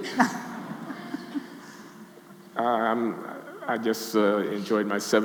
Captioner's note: audience laughing